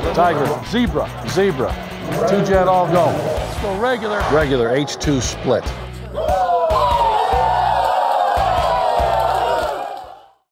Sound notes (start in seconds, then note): 6.1 players all cheering